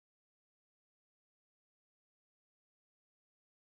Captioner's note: none